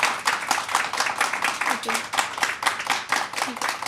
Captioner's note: applause